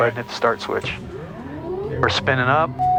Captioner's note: plane engine starting